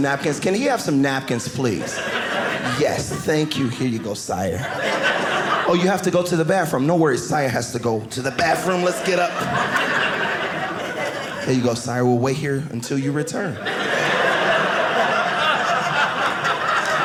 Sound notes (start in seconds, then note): 9.6 audience laughing; 13.2 audience laughing